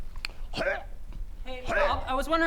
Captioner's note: hrrgh